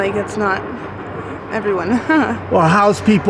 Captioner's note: giggles